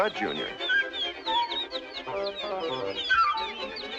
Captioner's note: incessant chirping